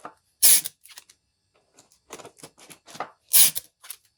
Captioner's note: sellotape squeaking